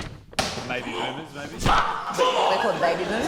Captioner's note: grunts